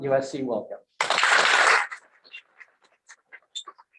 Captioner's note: applause